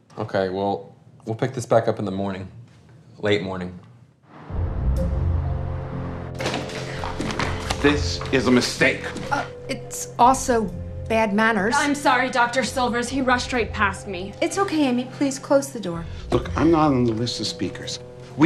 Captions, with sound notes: - Okay, well, we'll pick this back up in the morning. Late morning. (suspenseful music) (door opens) - This is a mistake. - Ah, it's also bad manners. - I'm sorry, Dr. Silvers, he rushed right past me. - It's okay, Amy, please close the door. - Look, I'm not on the list of speakers.